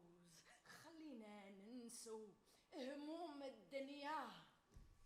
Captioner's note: woman speaks Arabic